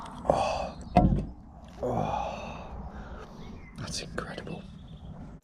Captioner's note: can thuds